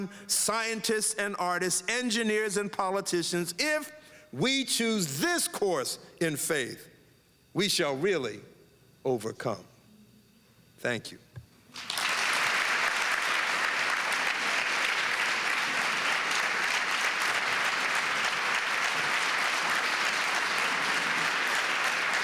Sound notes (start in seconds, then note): 12.7 applause